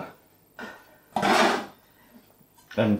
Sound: scrape

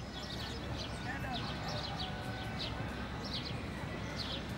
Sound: birds chirping

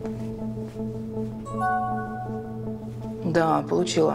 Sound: phone beeps

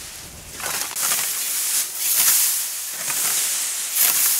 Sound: scraping

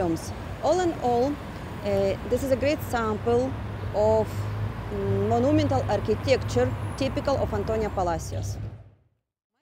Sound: street & Traffic Noise

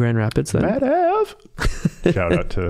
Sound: chuckling

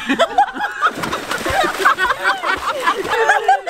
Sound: laughing; splash

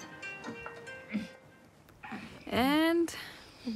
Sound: phone continues ringing; grunts

